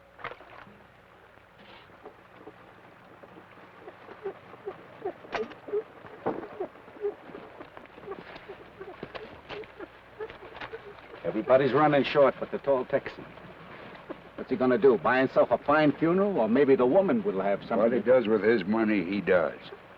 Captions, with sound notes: (water splashes) (rocker box squeaks rhythmically) - Everybody's runnin' short but the tall Texan. What's he gonna do, buy himself a fine funeral? Or maybe the woman will have something- - What he does with his money, he does.